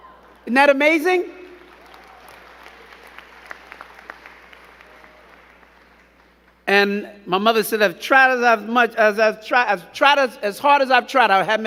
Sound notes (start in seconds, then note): 1.1 crowd clapping